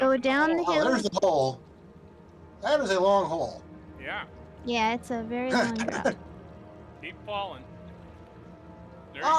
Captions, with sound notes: Oh, down the hill? There's a hole. That is a long hole. Yeah. Yeah, it's a very long hole. [Laughing] Keep falling.